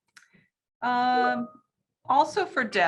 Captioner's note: chimes